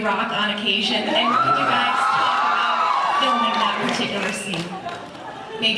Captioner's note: cheers